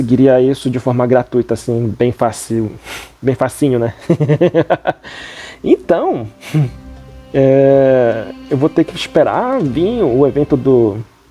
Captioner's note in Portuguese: risadas